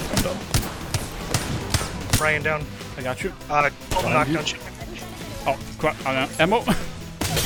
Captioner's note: laughs